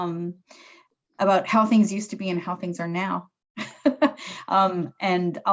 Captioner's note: chuckles